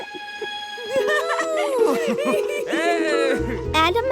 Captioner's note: both laughing, exclaiming